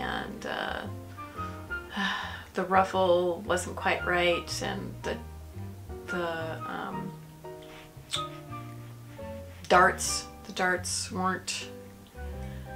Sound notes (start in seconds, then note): none